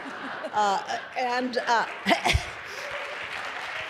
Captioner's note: applause